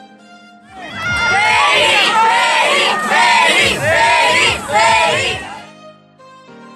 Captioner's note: shouts